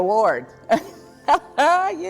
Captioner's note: laughs